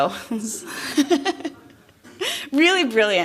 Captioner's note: laughter